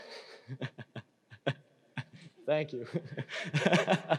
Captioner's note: laughing